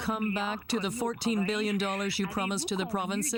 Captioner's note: speaking French